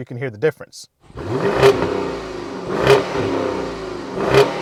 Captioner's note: engine revving - Comfort Mode